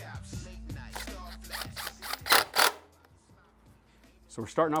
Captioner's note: whirring